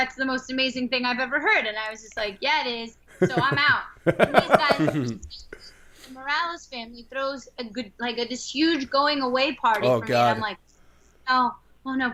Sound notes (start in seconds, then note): 3.1 laughter